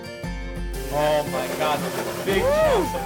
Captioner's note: pan hisses